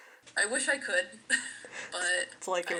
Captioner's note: laughter